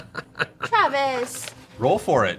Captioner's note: laughs